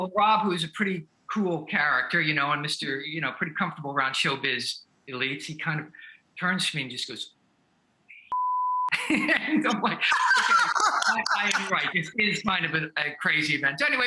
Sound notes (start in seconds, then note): 8.2 beep; 9.6 laughing